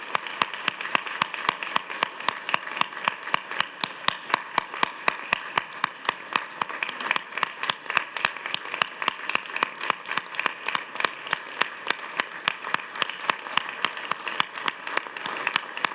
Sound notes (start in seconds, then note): 0.0 applause